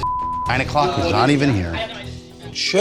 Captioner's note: beep